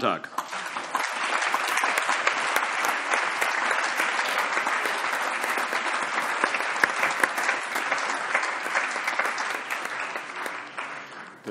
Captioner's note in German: Allgemeiner Beifall